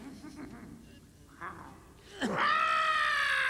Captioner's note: both laugh